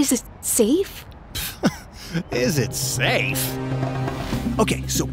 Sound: laughs

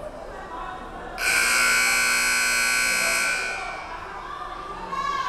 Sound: buzzer buzzing

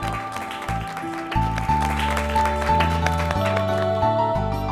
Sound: applause

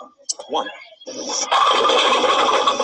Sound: voiceover

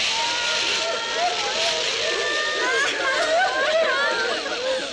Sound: wailing

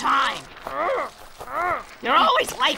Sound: grunts

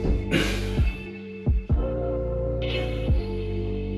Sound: exhales

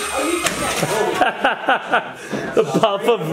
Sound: laughs

